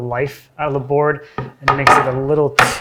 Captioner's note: board clacking